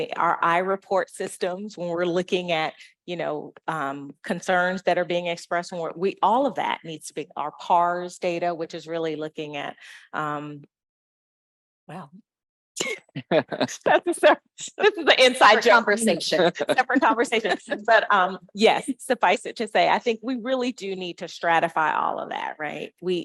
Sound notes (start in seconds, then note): 13.0 laughing